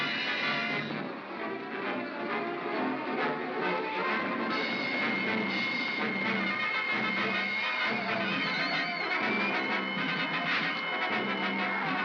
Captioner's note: triumphant music; suspenseful music; sounds of battle